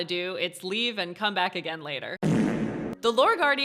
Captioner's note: fart sound